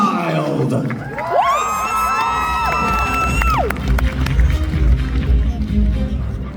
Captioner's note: applause